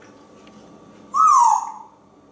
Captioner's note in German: whistling